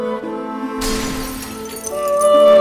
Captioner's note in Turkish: Kırılan cam sesleri